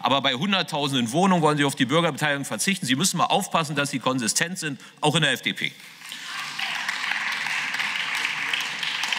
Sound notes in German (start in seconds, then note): 5.8 Beifall